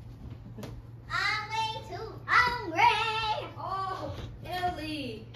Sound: chuckles

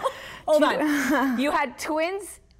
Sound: laughter

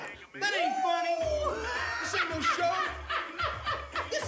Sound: Terrell continues laughing

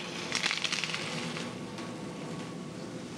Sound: sizzling

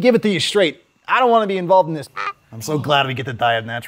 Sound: squawking

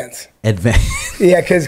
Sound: laughs

